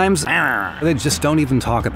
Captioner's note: grunting